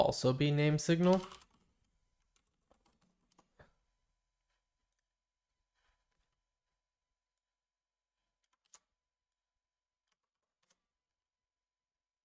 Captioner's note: silence